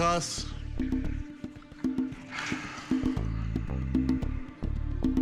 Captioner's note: sighs